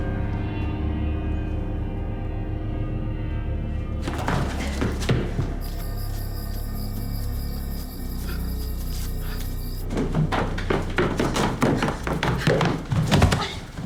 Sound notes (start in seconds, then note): 5.6 crickets chirping; 10.7 footsteps clicking